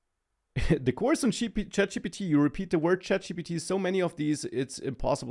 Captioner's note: laughs